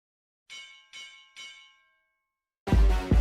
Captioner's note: bell chiming; upbeat music